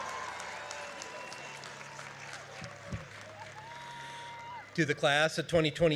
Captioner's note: applause; cheering